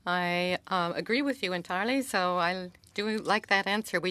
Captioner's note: speaking French